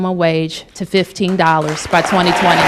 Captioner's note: applause